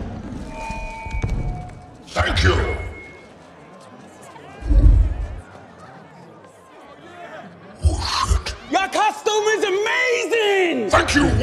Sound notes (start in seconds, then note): 0.4 feedback squeals; 3.2 crowd murmuring